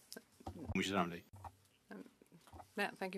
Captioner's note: speaking French